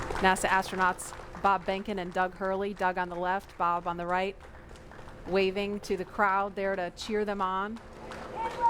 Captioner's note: applause